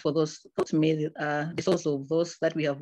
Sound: audio distorts

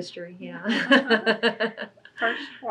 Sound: laughs

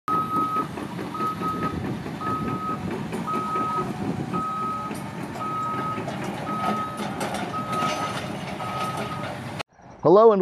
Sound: sound of excavator moving and dropping debris

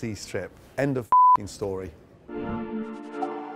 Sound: beep; melodic music

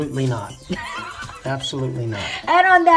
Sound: laughing

